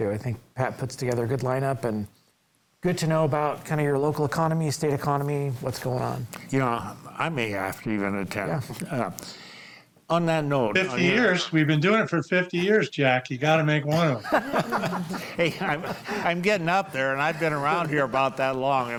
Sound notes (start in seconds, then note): 13.9 group laughs